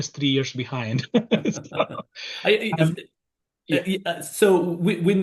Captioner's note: everyone laughs